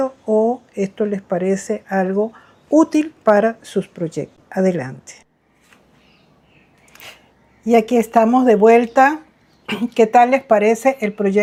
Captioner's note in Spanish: carraspeo